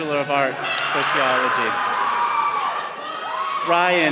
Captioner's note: all cheering